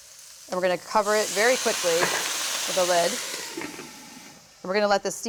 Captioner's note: sizzling loudly